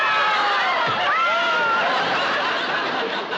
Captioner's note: thunk